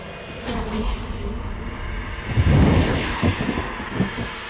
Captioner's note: faint whispering